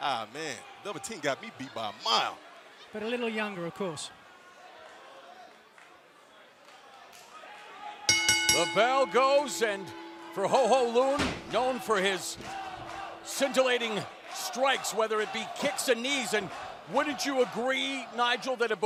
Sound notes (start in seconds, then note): 8.1 bell ringing